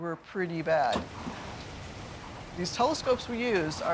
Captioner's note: wind howling